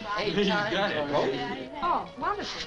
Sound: all chattering

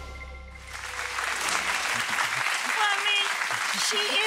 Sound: audience applauding

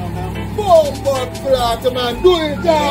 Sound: shouting

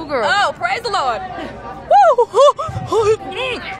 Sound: exclaims

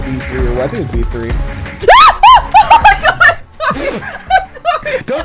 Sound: screams

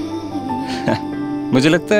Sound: chuckles

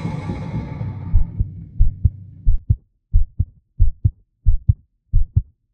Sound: heartbeat sound effects

